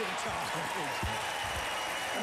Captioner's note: applause